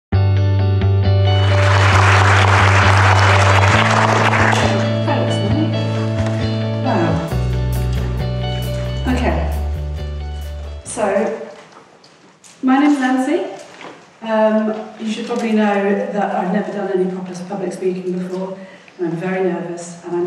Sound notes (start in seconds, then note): 1.0 music and applause